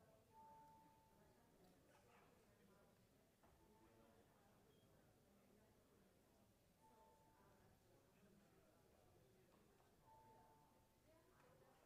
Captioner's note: bells are ringing